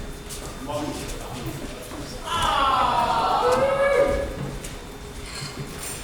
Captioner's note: audience awws